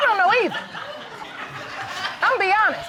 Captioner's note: audience laughing